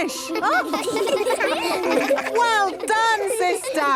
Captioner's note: children laughing